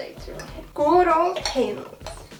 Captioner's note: weird accent